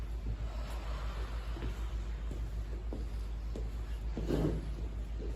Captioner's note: inhale; exhale